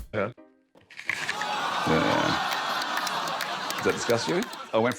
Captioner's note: groaning, laughter